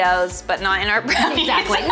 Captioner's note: laughs